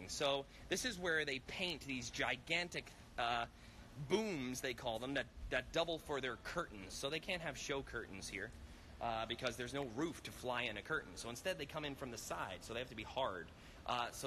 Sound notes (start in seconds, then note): none